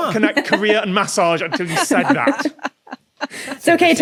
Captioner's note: laugh